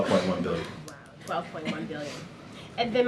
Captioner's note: laughter